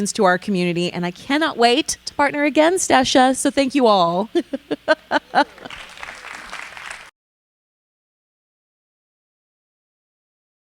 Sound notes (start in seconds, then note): 4.2 laughing; 5.2 audience applauding